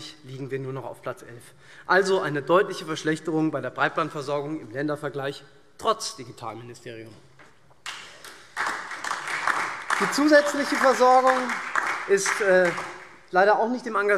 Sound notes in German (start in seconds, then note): 7.8 Beifall SPD und DIE LINKE